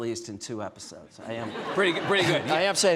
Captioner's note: audience laughing